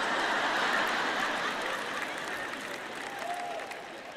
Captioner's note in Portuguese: audiência ri